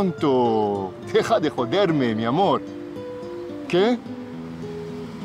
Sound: Alejandro speaking Spanish

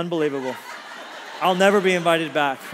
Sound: congregation laughs

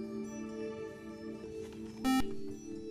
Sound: buzzer

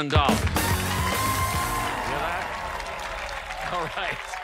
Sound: cheers and applause

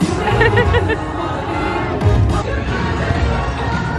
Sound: laughing; upbeat music

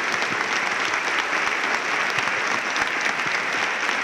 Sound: applause

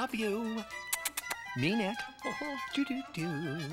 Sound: kisses

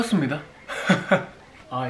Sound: laughing

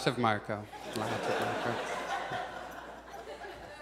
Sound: audience laughs

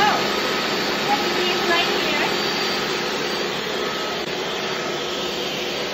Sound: background noise of blender working; whooshing sound of blender

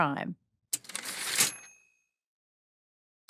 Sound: typewriter ding

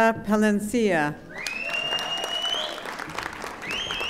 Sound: audience applauding

